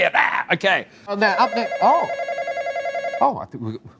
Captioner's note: phone ringing